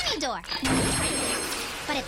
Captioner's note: energy hums